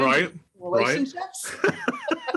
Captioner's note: laugh